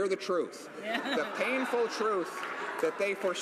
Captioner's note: crowd Noise